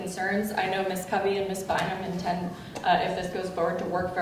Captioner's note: speaking softly